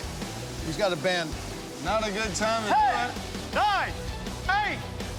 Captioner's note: shouting